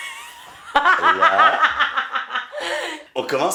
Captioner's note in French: rires